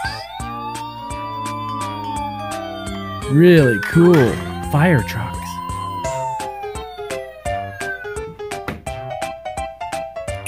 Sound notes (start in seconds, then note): 0.0 fire truck siren